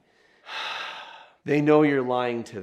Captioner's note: sighs